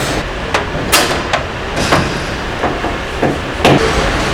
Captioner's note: metal clanging